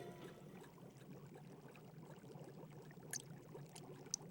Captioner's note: liquid percolating